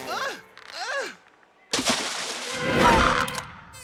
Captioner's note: water splashes; door creaks open